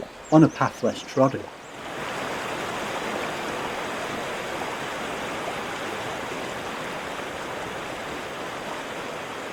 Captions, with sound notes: on a path less trodden (stream rushes loudly)